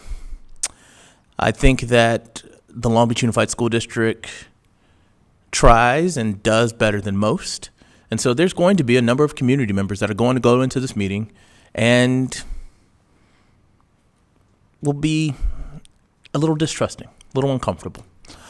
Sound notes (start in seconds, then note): none